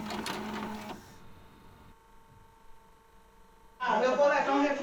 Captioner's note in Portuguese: som de rolo de filme girando